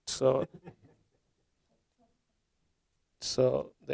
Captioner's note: audience laughing